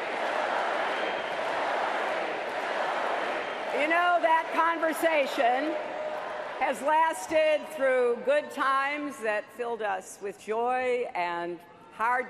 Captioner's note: audience chanting "hillary"